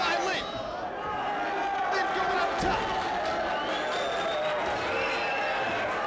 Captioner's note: crowd cheering